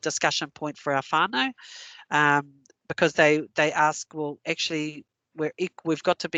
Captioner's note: non-english